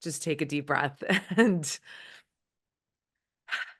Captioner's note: inhales and exhales